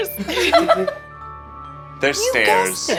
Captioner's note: chuckling